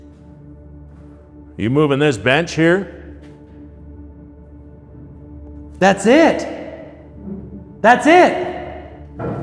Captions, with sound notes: - Are you moving this bench here? (bench scraping) - That's it! That's it!